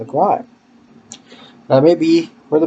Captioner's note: lip smack